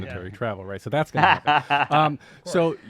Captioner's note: laughs